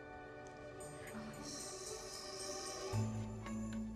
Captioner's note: exhaling sharply